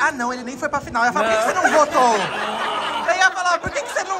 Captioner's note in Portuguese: risos